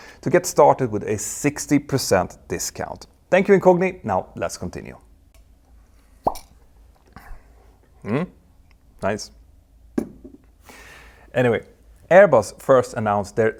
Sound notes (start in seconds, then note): 6.3 teaspoon clinks